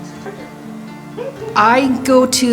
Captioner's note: laughing